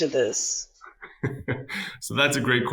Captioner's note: laughing